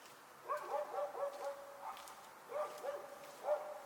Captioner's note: dog barking